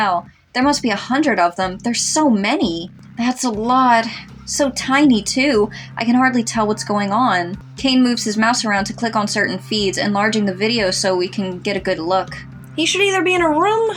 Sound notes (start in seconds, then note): none